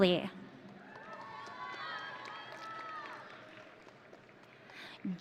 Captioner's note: audience cheering